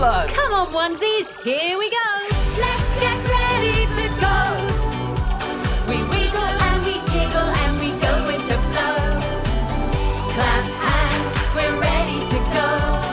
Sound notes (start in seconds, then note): 10.9 clap, clap